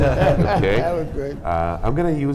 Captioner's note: panelists laughing